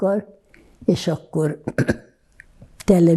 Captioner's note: clears throat